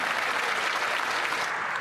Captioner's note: cheering and Applause